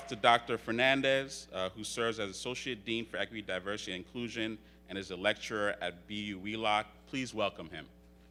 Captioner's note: attendees Cheer